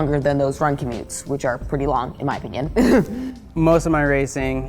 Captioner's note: laughs